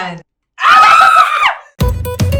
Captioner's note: lots of shrieking